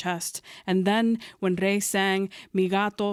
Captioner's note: speaking Spanish